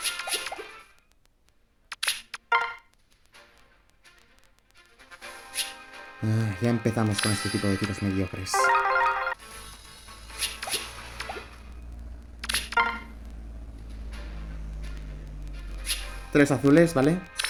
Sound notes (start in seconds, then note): 6.2 sigh